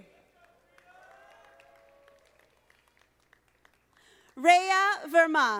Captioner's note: audience applauding